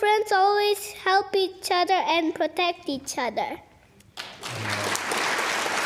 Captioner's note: applause